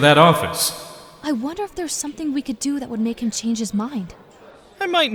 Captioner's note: whispering